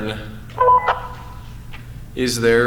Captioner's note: blip